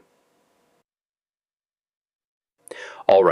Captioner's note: pause